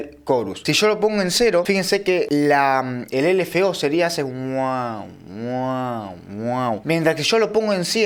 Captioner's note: mouth sound